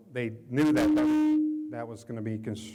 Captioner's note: microphone feedback echos